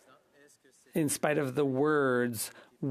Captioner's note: speaking French